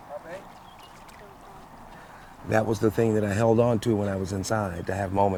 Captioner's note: indistinct chatter